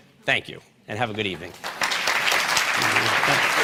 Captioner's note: applause